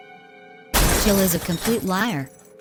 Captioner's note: crashing